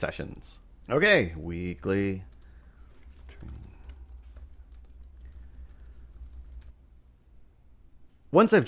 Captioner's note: sounds of typing